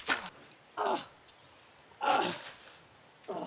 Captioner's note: Arawn grunting